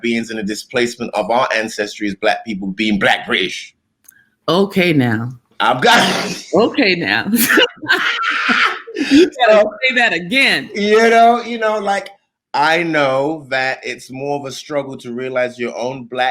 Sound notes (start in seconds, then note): 7.3 both laughing; 7.3 laughter